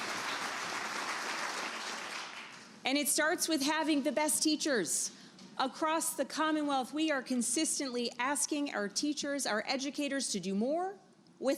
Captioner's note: applause